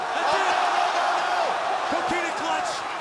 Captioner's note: crowd cheering